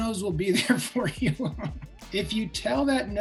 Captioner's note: laughs